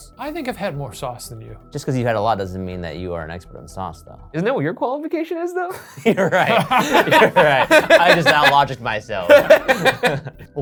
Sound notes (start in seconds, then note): 5.7 laugh; 5.8 laughs; 9.2 laugh